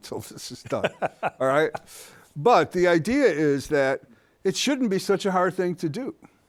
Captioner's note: laughs